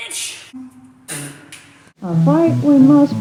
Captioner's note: spits tobacco